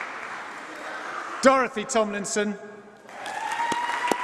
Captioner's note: applause